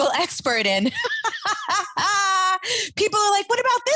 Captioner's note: laughs